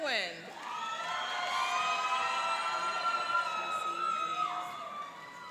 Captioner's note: cheering and applauding